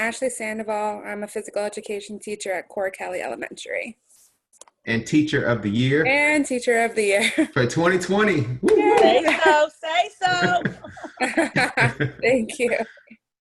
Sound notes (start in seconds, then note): 8.8 cheering; 10.0 laughing